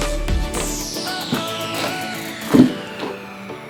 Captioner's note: cracks